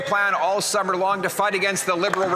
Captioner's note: some Applause